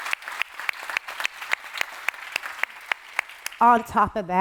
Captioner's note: applause